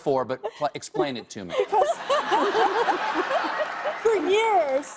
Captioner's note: laughter